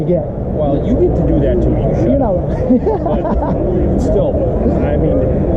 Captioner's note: haha